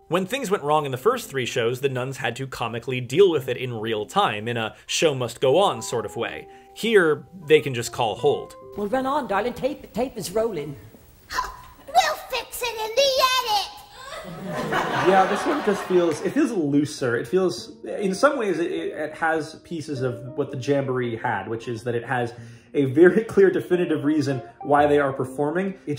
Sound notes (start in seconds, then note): 13.9 gasp